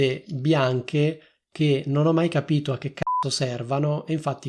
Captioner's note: beep